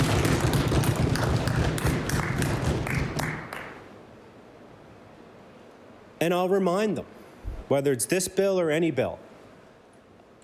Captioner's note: applause